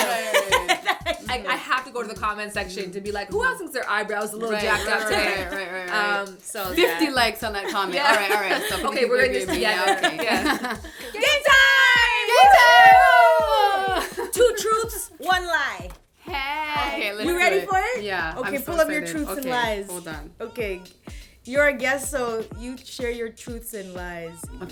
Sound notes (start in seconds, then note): 0.0 laughter; 10.8 laughter; 12.0 cheering